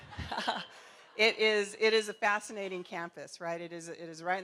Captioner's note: laughter